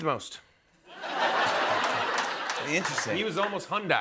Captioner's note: laughter